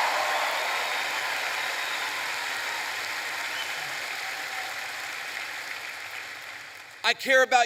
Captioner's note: applause